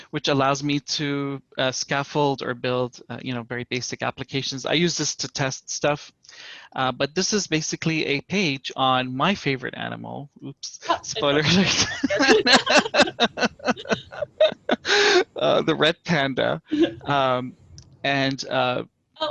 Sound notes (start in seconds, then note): 10.8 laughter